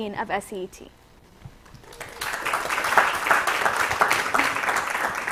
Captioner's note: applause